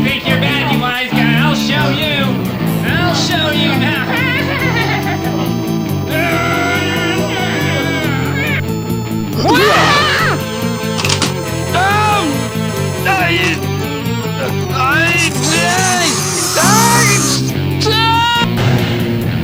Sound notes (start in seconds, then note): 0.0 yelling; 9.2 Gazbo yelps; 14.2 babbles desperately